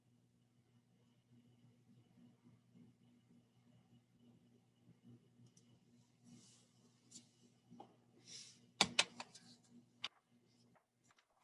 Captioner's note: silence ensues as live attendees answer poll question